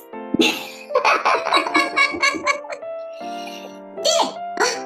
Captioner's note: laughs softly